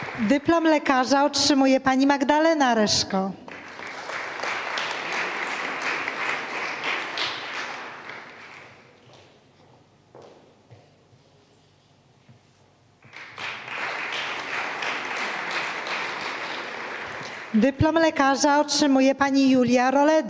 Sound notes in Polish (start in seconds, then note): 5.0 oklaski